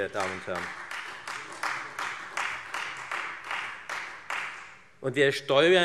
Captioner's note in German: Beifall Freie Demokraten